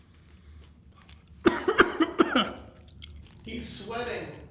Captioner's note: crunch sounds; coughs